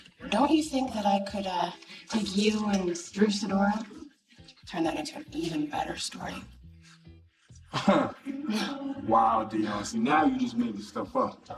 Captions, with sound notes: Don't you think that I could take you and Drew Sedora? Turn that into an even better story. (laughs) Wow Deon, now you just made the stuff up.